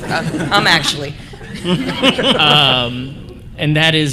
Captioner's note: laughter